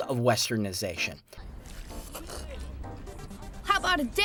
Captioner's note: sips